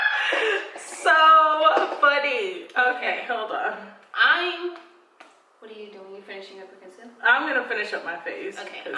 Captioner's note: laughing